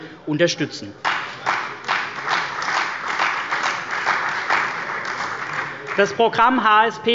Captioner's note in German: Beifall bei der CDU und dem BÜNDNIS 90/DIE GRÜNEN